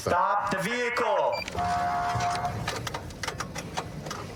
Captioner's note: horn blaring